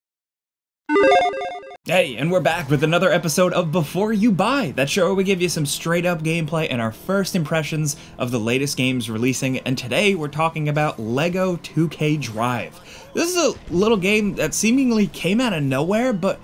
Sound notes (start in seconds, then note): 0.9 lively digital chiming; 2.0 vehicles accelerating